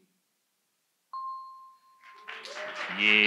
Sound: audience applauds

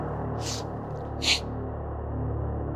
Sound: sniffles

